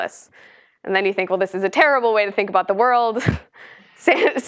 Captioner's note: laugh